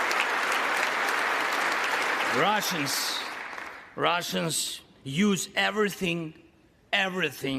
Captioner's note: applause